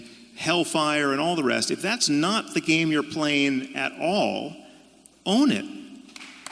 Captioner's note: applause